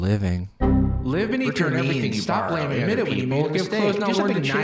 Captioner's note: overlapping chatter